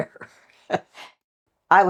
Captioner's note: laugh